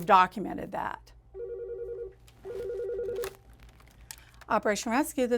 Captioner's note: phone rings